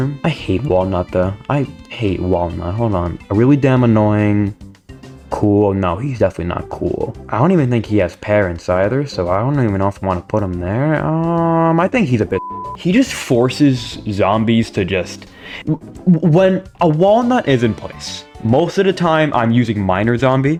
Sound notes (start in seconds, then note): 15.2 inhales Oxygen